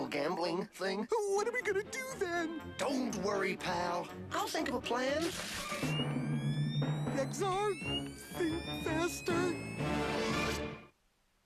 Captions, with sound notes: DEBATABLY ILLEGAL GAMBLING THING. WHAT ARE WE GONNA DO THEN? DON'T WORRY, PAL. I'LL THINK OF A PLAN. [BLASTERS COCK AND POWER UP] XR...THINK FASTER.